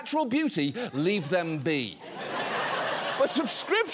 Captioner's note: audience laughing